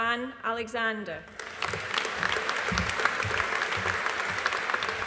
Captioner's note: audience applauding